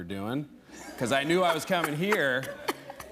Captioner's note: laughter